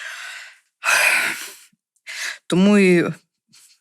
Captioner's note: sighs deeply